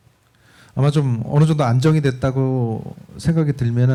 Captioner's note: speaking korean